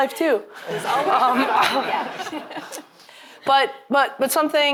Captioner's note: audience clamoring